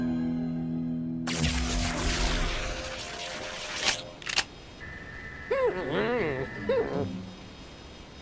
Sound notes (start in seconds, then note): 1.3 electric buzzing; 4.2 clicks